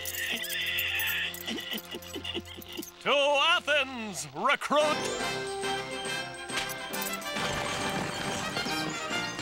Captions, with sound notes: (HORSE CHUCKLES) To Athens, recruit!